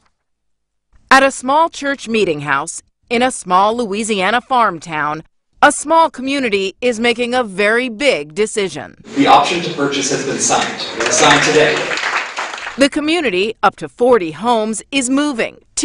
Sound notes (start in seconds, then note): 10.4 applause